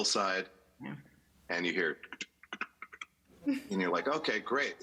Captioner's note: mouth sound